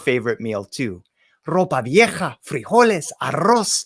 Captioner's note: spoken in foreign language